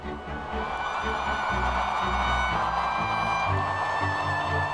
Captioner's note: crowd cheering